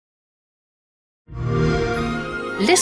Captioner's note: xbox sound